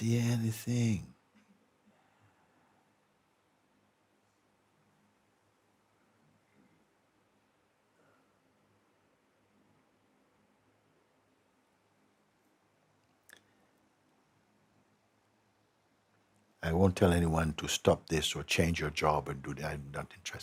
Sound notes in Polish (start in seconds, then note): 2.4 cisza